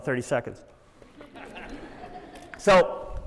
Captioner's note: laughter